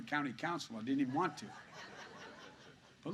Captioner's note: laughter